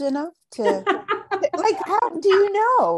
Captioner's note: laughs